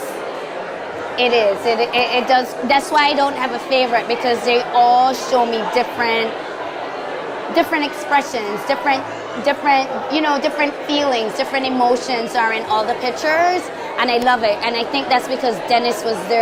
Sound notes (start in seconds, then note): none